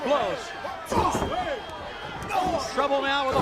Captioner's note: crowd chatter